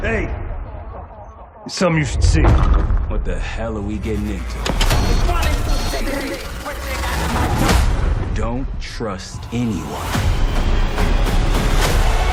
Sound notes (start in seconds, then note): 6.4 distorted yelling